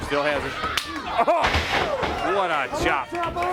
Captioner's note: crowd chatter